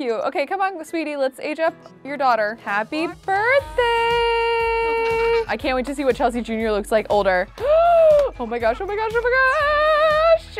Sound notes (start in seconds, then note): 7.6 gasping